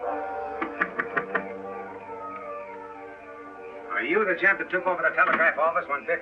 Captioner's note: knocking